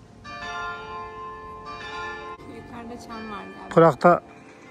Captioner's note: bell sound